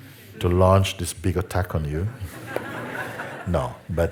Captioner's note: laughter